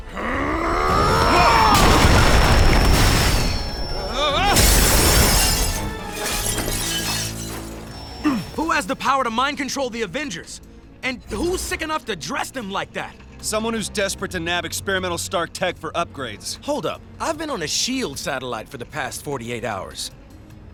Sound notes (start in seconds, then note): 0.0 growling; 1.0 crashing